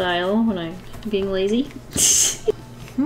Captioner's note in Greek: Γέλια